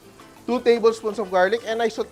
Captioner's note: sizzles